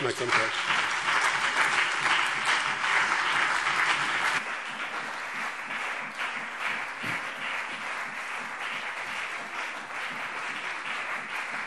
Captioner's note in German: Lebhafter Beifall BÜNDNIS 90/DIE GRÜNEN und CDU